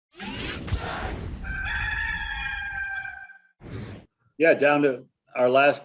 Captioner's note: electric buzzing and cock crows